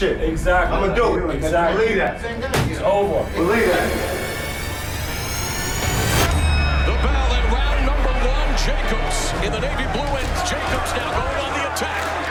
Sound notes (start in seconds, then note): 6.1 bell rings